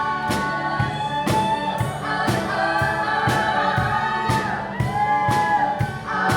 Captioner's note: audience cheering